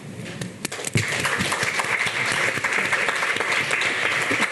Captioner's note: audience clapping